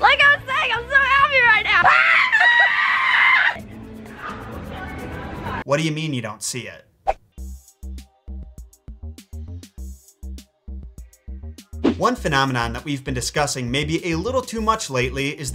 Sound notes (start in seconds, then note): 1.8 screams